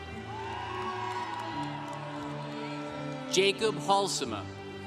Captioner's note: congregation cheering